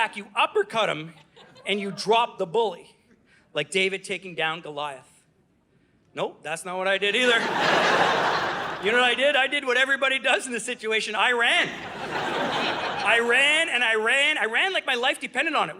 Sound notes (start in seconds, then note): 7.2 audience laughing; 11.5 audience laughing